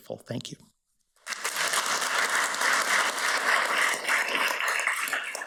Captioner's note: audience applauds